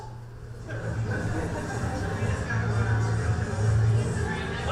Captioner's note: audience laughs